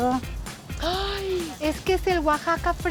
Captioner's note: Pati gasps